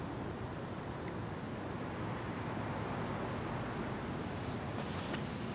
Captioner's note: background traffic